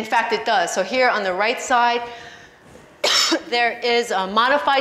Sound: coughs

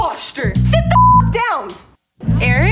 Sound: beep

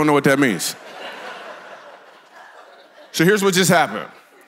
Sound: congregation laughs

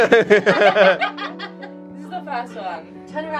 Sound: laugh

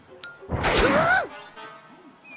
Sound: hollers

